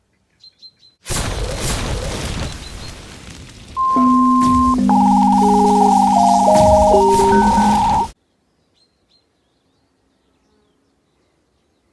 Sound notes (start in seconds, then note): 0.2 birdsong; 8.3 birdsong